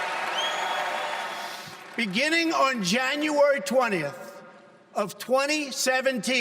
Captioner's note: cheers and applause